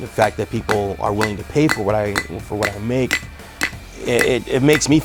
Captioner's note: hammer thudding